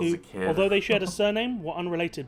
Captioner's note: voice-over